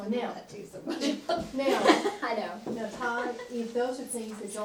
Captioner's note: laughter